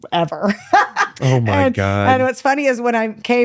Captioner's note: laughs